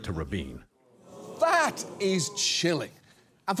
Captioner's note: audience groans